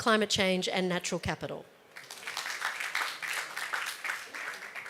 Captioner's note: applause